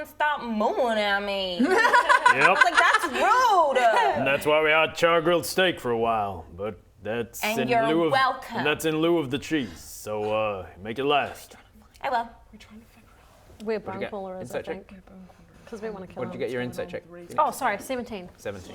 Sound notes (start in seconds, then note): 1.8 laughing; 11.6 whisper whisper